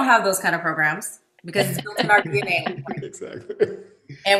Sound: group laughs

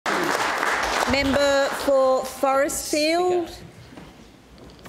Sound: applause

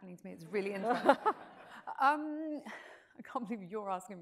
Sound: audience laughs

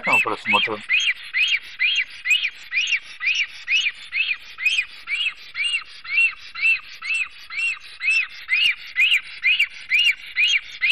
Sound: крики аистоов

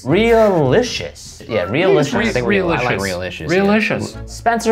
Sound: group chatter

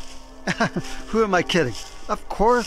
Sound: laughs

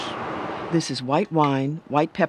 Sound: voiceover

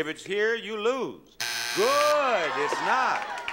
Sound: buzzer sounds

